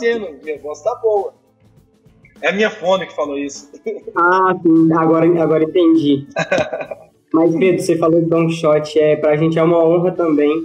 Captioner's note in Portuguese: risos